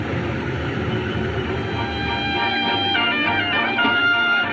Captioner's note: crowd Chattering